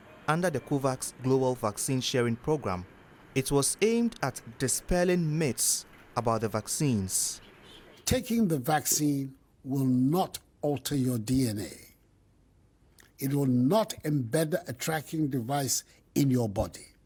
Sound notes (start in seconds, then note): 7.9 through translator